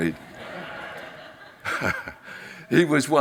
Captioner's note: audience laughs